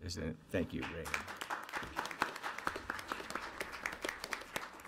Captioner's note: audience applauds